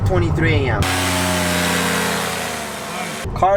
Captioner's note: engine buzzing